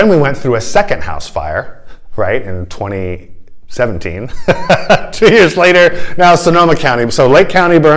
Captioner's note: laughter